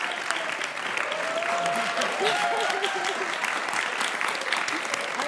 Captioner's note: audience applauding; audience cheering